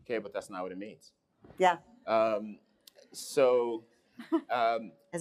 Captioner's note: laughing